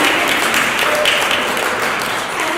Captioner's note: applause